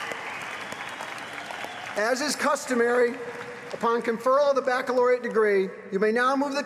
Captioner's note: applause